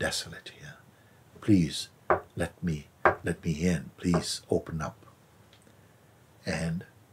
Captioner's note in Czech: zvuk klepání